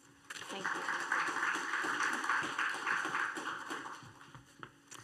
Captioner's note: applause